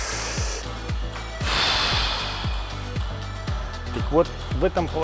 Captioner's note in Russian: Выдох